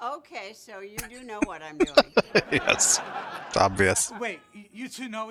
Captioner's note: laughing